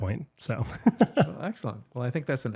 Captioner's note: laughs